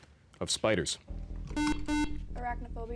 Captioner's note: beep